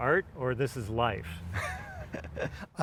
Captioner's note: laughter